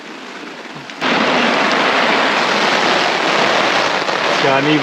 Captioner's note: rain pattering